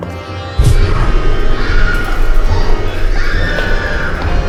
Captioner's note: lolani screams